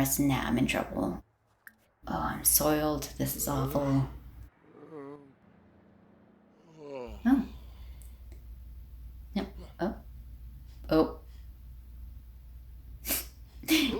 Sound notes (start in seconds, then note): 4.3 uncomfortable moan; 13.6 laugh